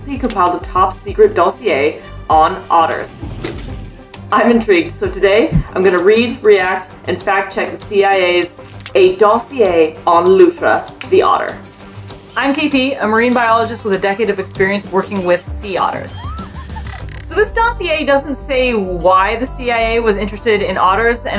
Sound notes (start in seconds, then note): 3.2 background music; 3.2 water splashing noise; 15.6 background music and effects; 16.1 squeals in clip